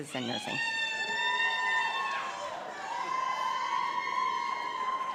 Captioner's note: audience applauds